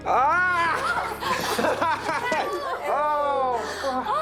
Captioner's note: laughing